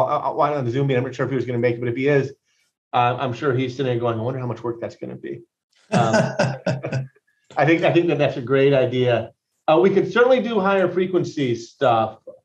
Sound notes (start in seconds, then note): 5.9 laughing